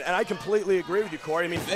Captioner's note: crowd cheering